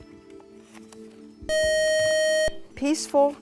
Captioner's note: buzzer